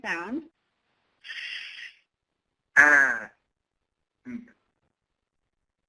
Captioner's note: app sounding out letters